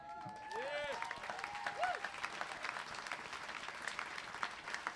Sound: cheering, clapping

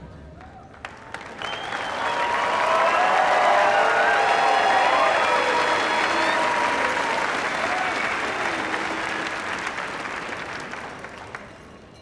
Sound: cheers and applause

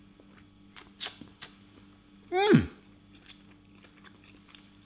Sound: smacking lips

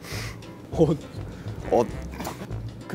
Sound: kekeke

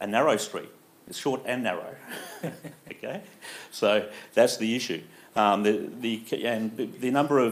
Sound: laughs

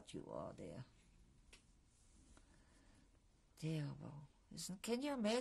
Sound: pauses for 3 seconds

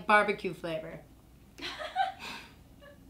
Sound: laughing

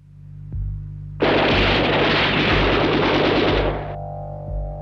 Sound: guns banging

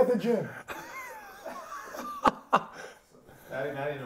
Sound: laughs

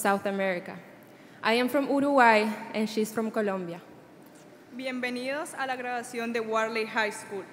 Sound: speaking Spanish

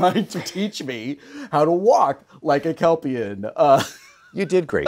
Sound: laughing

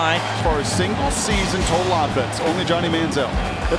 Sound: voiceover

